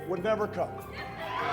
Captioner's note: cheering